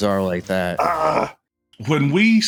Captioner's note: infuriated grunt